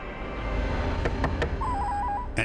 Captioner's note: knocking the door